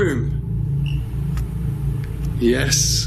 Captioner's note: device beeps